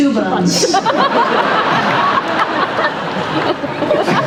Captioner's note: laughter